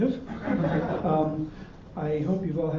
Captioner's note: audience laughter